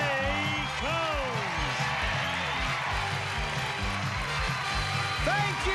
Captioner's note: cheers and applause